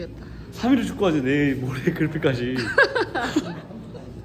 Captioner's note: haha